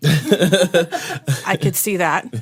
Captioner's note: laughter